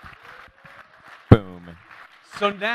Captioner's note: applause